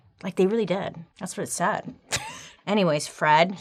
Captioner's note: laughing